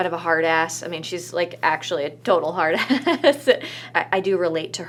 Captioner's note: laughs